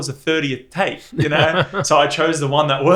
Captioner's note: laughs